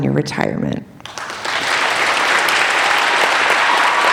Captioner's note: applauding